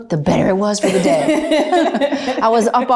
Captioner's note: interviewer laughs